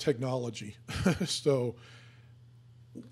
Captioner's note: laughing